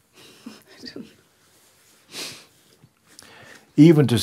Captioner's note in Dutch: lacht